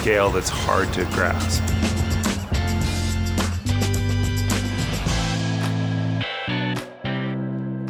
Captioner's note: seagulls squawking; upbeat music